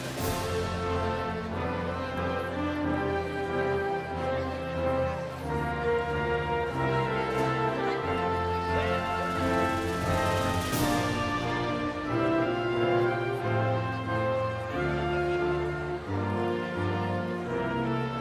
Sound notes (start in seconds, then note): 5.8 cheering continues; 5.8 inspirational music